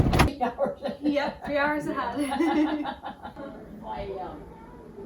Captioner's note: chit chat and laughter